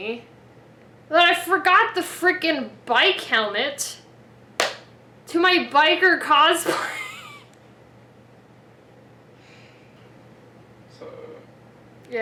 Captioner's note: claps; laughs